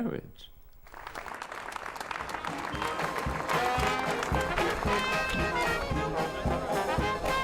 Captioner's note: people applauding; lively jazz music